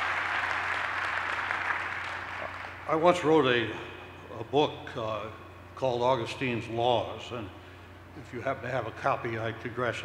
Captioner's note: applause